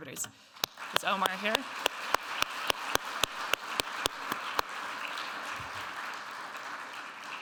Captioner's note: audience applauding